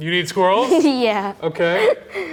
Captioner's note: laughs